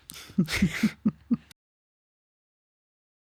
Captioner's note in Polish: śmiech